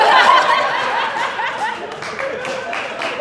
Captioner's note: audience Laughing